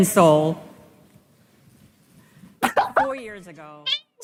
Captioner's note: laughs in public speaking